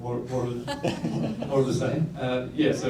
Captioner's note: laughter